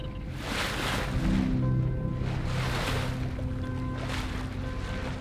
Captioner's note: bird tweeting; waves crashing; gentle music